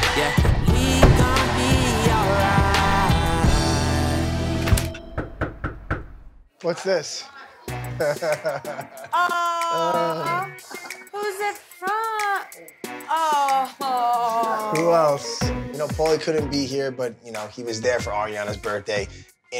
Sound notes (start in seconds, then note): 5.0 knocks on door; 7.6 laughs